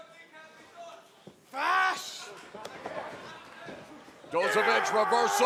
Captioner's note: crowd chatter